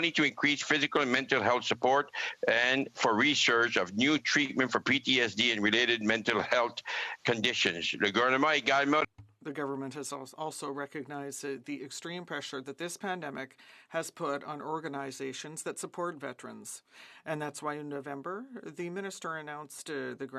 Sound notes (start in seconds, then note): 12.6 speaking French